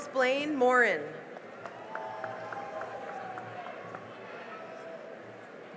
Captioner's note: cheering and applause